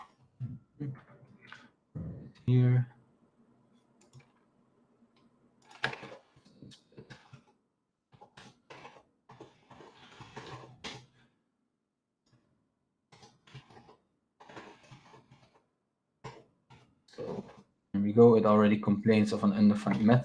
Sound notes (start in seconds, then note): 6.0 keyboard clacking